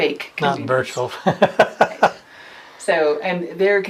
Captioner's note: laughs